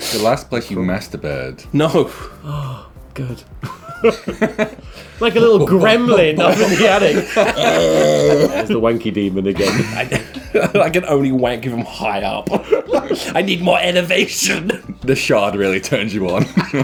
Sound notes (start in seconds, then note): 3.6 chuckling; 4.8 making bumping sound; 6.5 groaning; 7.5 laughing; 9.5 giggling; 12.4 giggling